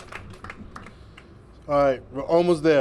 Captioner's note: applause